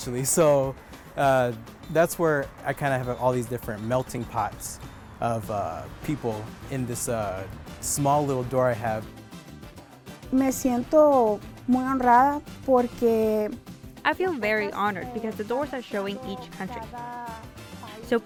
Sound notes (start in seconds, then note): 10.2 speaking in foreign language